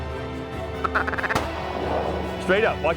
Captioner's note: gun shots; gun shot